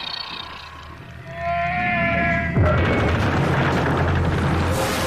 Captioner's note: eerie screeching